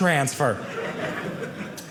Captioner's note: audience laughing